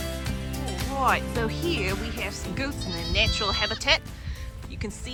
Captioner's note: Australian accent